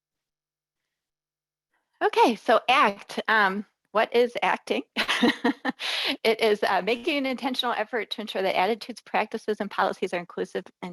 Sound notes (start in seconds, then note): 4.9 laughs